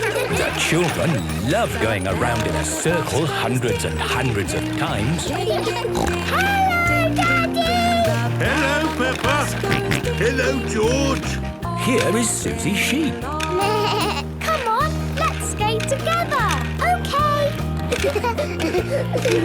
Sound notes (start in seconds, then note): 5.9 snorting; 9.4 George snorting; 13.6 bleating; 17.9 laughter